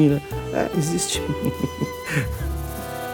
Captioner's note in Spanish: risas